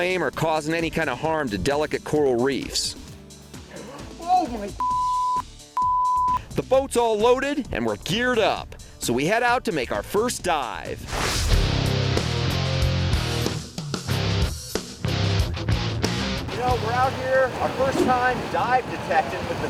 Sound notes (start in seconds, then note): 3.6 gasps; 11.2 heavy electric guitar